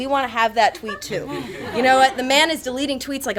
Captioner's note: attendees laugh